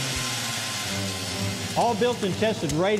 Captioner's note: drilling ice